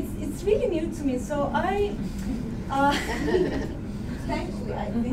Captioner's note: laughter